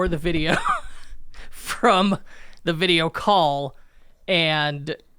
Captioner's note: laughs